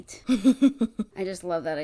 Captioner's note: laughs